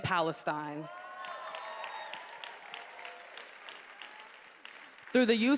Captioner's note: attendees applauding and cheering